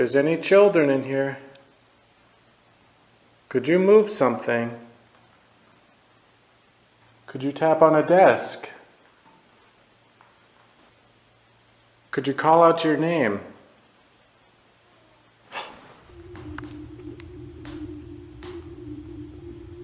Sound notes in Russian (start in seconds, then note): 14.9 стон мальчика